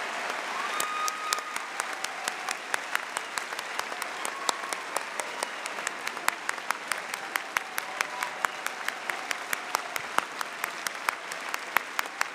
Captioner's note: cheering and applause